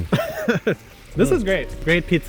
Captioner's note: laughing